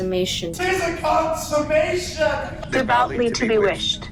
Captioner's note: shouting